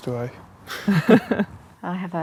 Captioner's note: both chuckle